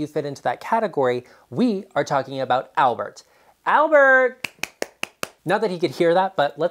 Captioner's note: clapping hands